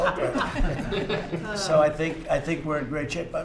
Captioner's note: laughter